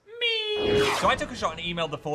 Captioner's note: graphic whooshes